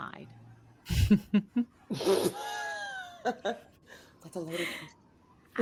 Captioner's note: cast members laughing